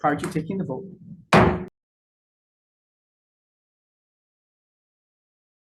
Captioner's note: gavel thudding